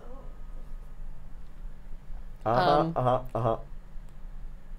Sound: mumbling

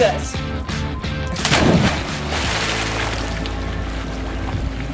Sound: water splashing

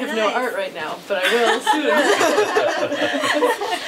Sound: laughs; laughing

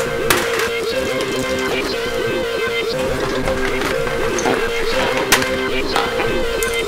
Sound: erratic music; keyboard clattering

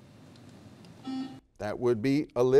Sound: buzzer dings

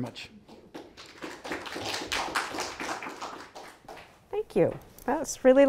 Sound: audience applauding

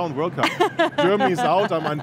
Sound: laughs

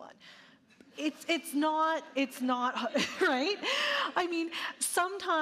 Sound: audience laughing

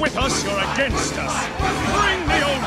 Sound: everyone shouting "CRUCIFY!"

